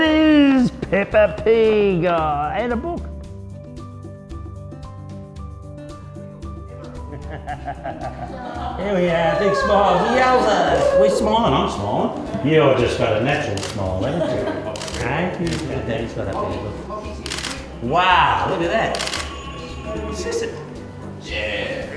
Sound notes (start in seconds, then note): 17.1 cameras clicking